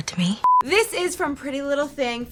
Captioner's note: beep